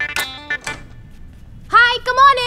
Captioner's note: Door opening